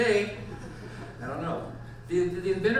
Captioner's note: audience laughs